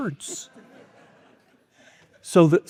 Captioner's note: audience laughing